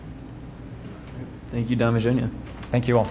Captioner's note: voiceover